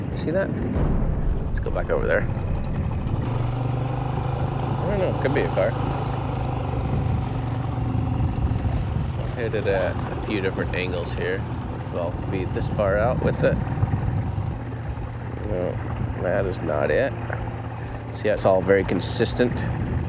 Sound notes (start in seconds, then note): 1.2 air rumbles; 7.1 engine chugging; 7.1 water sloshing